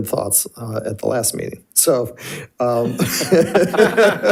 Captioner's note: laughs